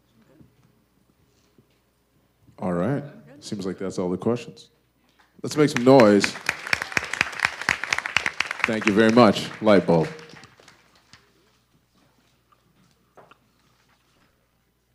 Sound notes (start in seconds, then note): 5.5 audience applause